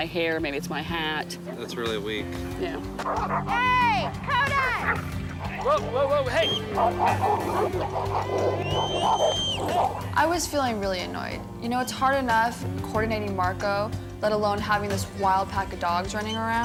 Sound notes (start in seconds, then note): 3.5 dogs barking; 7.2 barking and snarling